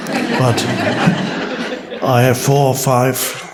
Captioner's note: audience laughs